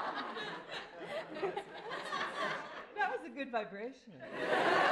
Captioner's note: laughter